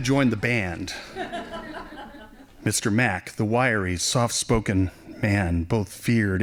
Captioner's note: laughing